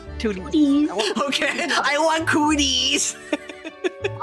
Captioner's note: laughing